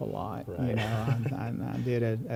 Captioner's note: laughs